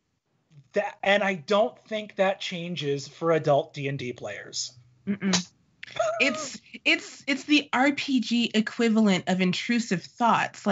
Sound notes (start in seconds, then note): 5.9 laughing